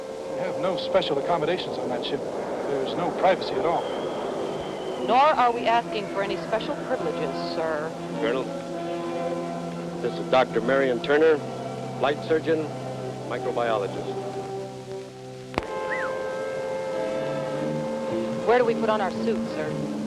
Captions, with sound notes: - We have no special accommodations on that ship. There's no privacy at all. - Nor are we asking for any special privileges, sir. - Colonel, this is Dr. Marion Turner, flight surgeon, microbiologist. (man whistles) - Where do we put on our suits, sir?